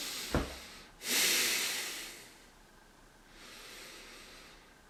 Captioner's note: heavy breathing